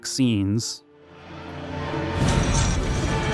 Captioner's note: flame rushes